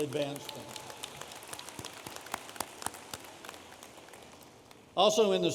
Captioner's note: audience applauding